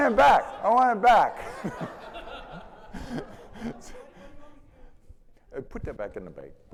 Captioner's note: audience laughing